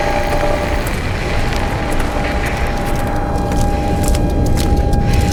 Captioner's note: loud radio static and whine